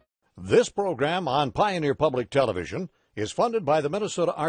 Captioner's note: voiceover